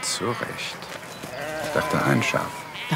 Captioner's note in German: Blöken